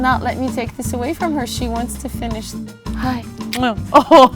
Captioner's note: kissing sound